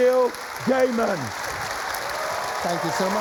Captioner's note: cheering and applause